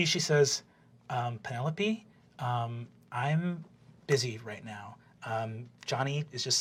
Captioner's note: higher voice, soft